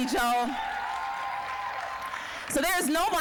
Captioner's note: applause, cheering